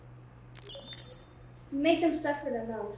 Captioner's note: computer noises